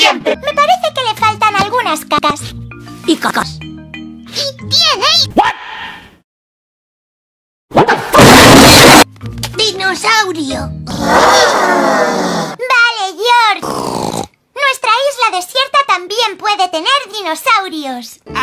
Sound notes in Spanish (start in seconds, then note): 10.9 sonidos d zombie